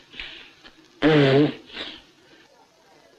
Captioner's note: blows nose